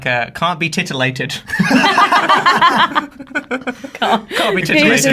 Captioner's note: laughing